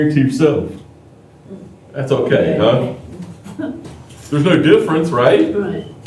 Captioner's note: laughter